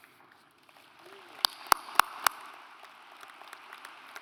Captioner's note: audience applauds